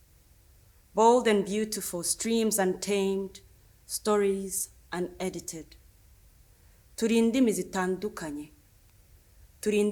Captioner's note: speaks Kinyarwanda